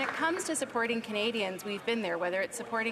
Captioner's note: some Applause